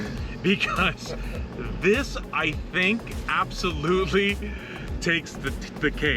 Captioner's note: chuckles